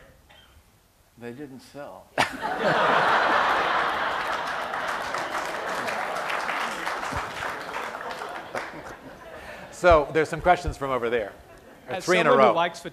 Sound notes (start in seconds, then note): 2.2 laughter and applause